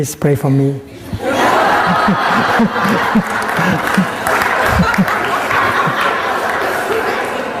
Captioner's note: laughter and clapping